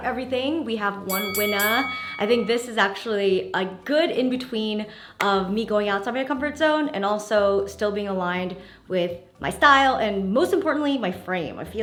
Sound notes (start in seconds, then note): 1.1 bell dinging